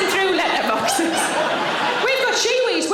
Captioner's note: audience laughing